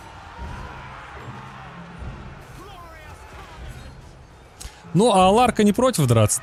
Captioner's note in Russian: крик